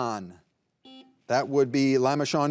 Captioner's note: buzzer buzzing